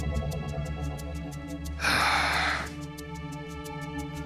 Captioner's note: sighs